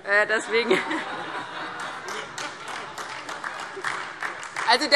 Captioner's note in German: Allgemeine Heiterkeit und Beifall - Zurufe